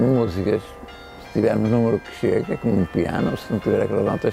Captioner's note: bells